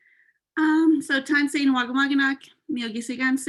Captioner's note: non-english speech